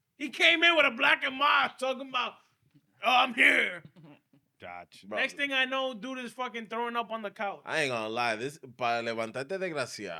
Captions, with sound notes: He came in with a black of miles, took him out, oh I'm here. Gotcha. Next thing I know, dude is fucking throwing up on the couch. I ain't gonna lie, this is (Speaking In Foreign Language)